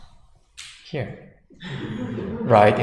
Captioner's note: audience laughs